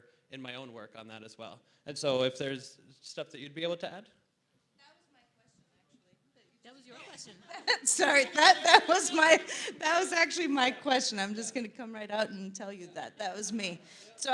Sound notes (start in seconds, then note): 7.0 laughs